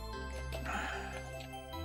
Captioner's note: sighs